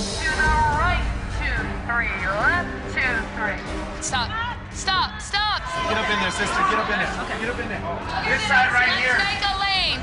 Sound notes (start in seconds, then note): none